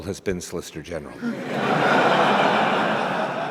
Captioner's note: laughter